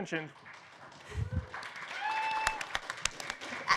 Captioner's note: applause